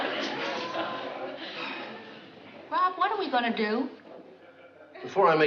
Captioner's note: sighs